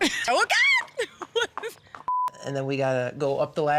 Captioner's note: laughing